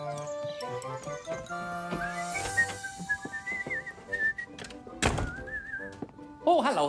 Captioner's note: mr. perkins whistles thomas and friends theme tune